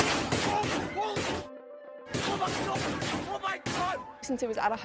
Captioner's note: gunshots and shouting